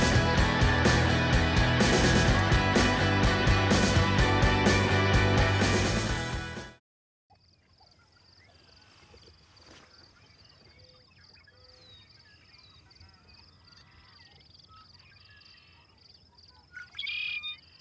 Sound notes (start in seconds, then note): 1.6 upbeat music; 11.7 birds chirping; 16.7 birds chirping